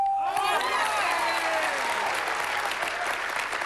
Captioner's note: cheering